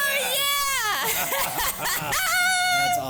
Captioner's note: both laughing